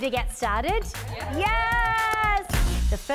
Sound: ladies cheering

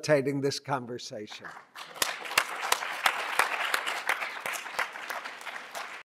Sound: applause

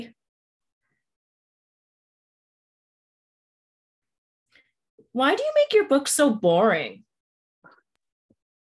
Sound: long silence

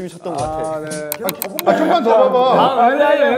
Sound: clicking the mouse fast

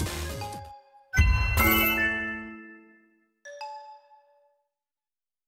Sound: sound effects

